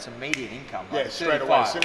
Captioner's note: snaps